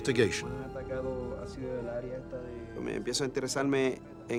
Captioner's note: speaking spanish